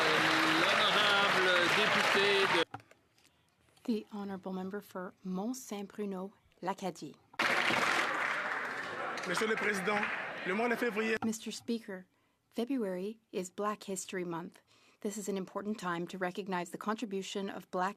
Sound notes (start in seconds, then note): 0.0 some Applause; 8.9 speaking French